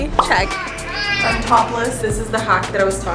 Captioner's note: baby crying